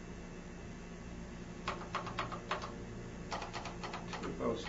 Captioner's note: keys clacking